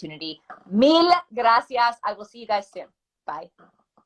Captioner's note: speaking spanish